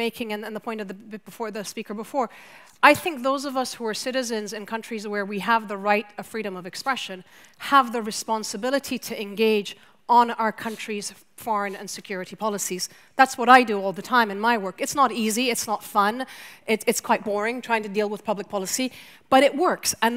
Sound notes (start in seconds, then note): none